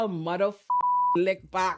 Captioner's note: beep